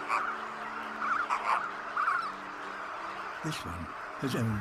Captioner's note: croaks